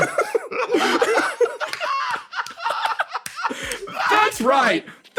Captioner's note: laughs